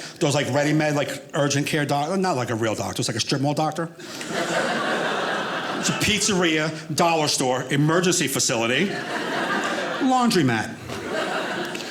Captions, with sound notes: like, ready-made like, urgent care doctor. Not like a real doctor. It's like a strip mall doctor. (audience laughing) Pizzeria, dollar store, emergency facility, laundry mat. (audience laughing)